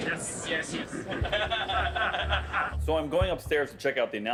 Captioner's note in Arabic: يضحك المدرب